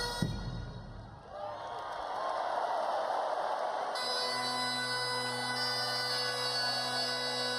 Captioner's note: crowd cheering